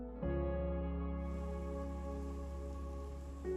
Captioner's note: insects buzzing